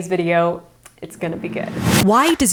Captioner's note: whooshing; upbeat music; rhythmic clapping